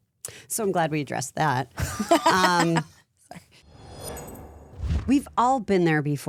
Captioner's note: laughing